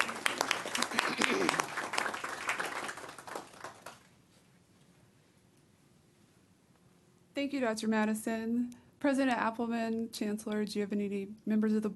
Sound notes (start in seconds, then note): 3.8 clapping